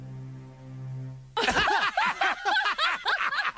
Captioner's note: laughter